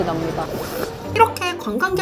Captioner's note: slurp